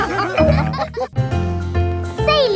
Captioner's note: all laughing